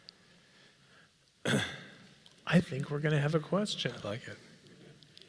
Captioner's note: cough